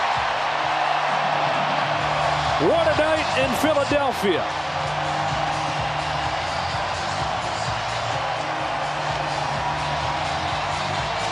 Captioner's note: applause